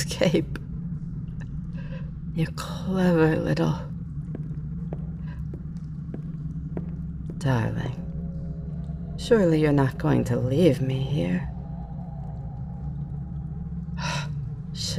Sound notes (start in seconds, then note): 4.2 footsteps